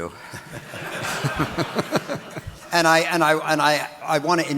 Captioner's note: audience laughing